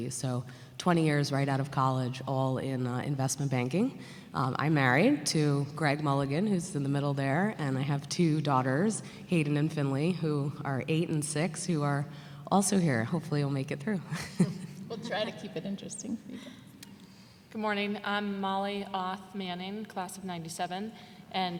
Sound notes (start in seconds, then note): 14.2 laughs